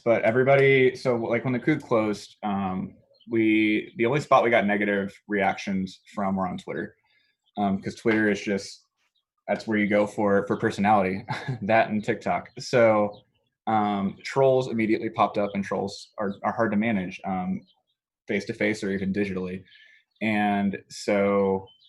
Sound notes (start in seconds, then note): 11.2 laughs